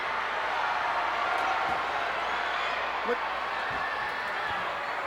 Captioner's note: audience cheering